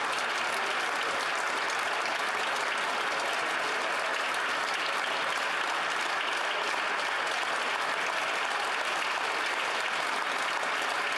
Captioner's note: applause